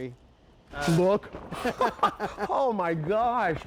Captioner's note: laughing